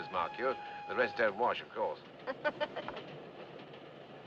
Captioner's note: Risos